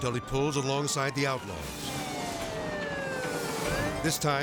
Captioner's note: sirens blaring